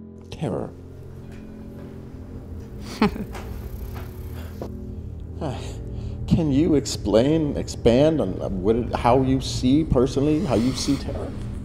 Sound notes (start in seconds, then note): 2.8 Abigail chuckling